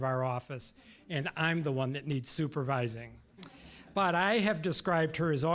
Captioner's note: audience laughing